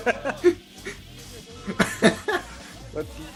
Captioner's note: laughs